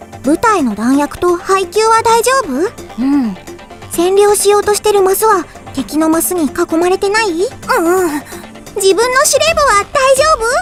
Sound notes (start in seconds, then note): 7.6 shudder